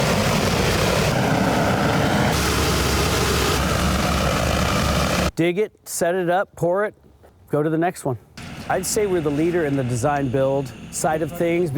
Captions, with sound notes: [ Whooshing sounds ] -Dig it, set it up, pour it. Go to the next one. I'd say we're the leader in the design build side of things --